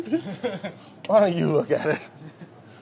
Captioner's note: laughter